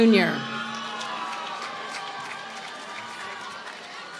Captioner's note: applause